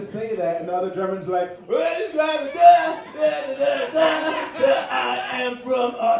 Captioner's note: drunken chanting